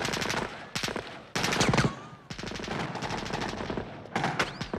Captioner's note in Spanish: gunfire continues